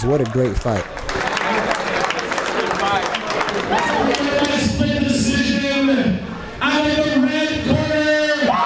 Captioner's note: crowd cheers; crowd cheers